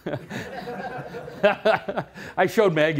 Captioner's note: laughter